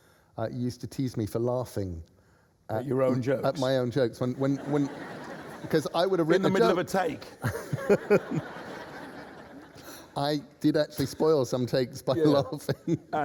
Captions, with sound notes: You used to tease me for laughing. — At your own jokes. — At my own jokes. (LAUGHTER) In the middle of a take! I did actually spoil some takes by laughing!